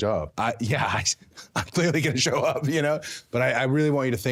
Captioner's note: laughing